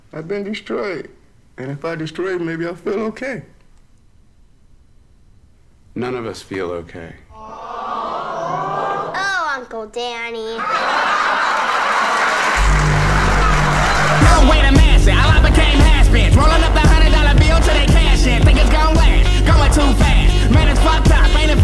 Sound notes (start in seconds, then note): 7.4 crowd; 10.6 crowd laughing